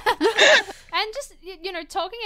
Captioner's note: hosts laugh